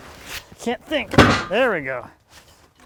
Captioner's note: wood clunking